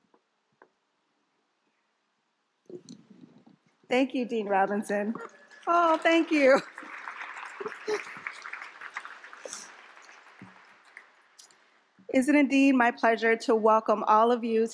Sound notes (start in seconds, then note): 6.8 applause